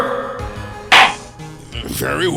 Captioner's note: gavel slams!